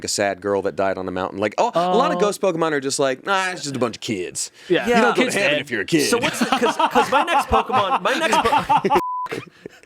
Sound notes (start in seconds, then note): 8.0 laughs; 8.9 beep